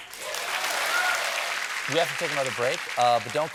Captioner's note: applause